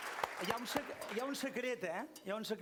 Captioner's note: non-english speech